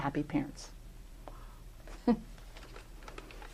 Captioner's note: laughter